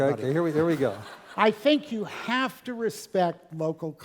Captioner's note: laugh